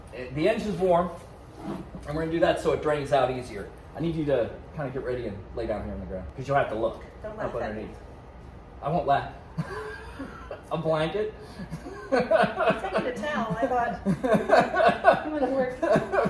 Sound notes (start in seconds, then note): 9.5 laugh